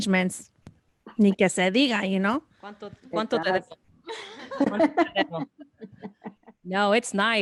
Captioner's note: laughter